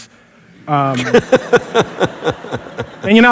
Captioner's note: laughter